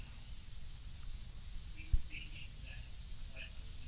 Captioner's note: murmuring